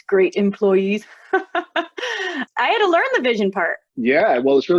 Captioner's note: laughter